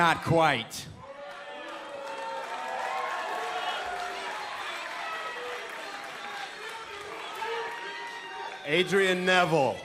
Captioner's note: crowd cheering